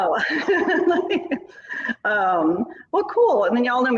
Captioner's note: laughing